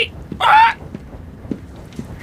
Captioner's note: squawking